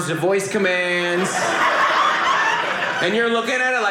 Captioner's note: audience laughing